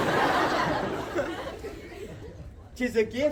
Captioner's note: crowd laughs